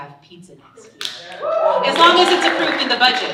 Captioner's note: audience cheering and applauding